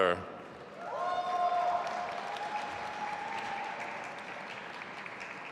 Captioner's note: audience applauding